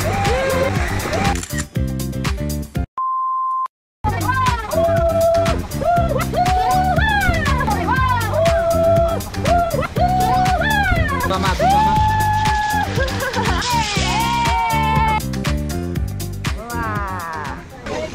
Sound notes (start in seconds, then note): 12.6 hahaha hahaha; 12.7 heehee heehee